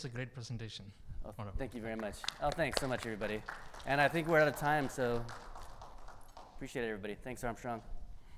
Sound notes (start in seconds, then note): 5.3 audience applauding